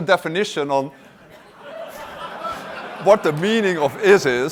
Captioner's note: laughter